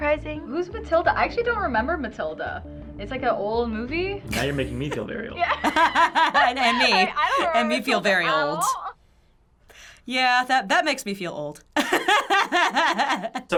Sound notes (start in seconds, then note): 5.4 laughing; 11.8 laughing